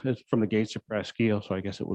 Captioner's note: murmurs